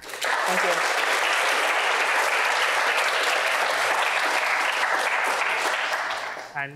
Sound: applause

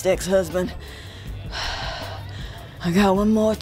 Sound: takes a breath

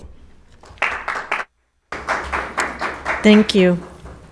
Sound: audience applauding

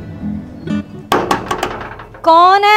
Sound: knocking on the door

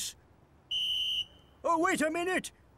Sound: blows whistle

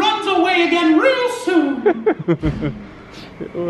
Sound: they laugh; laughs

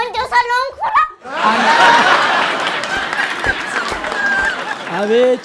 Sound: laughter and applause

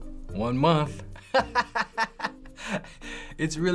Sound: laughing

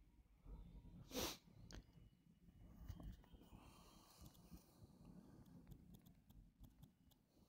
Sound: types

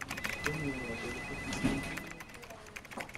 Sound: telephone rings; typing on laptop

